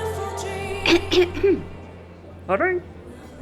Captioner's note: throat clearing